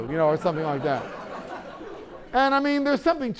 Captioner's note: laughter